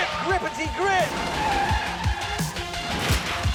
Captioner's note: tyres screech